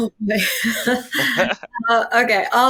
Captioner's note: laughing